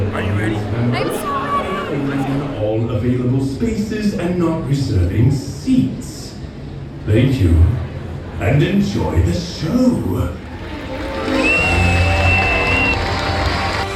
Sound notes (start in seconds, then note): 2.6 intercom Announcement; 10.3 crowd Cheering